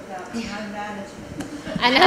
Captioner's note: laugh